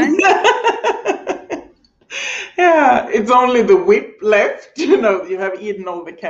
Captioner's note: laughing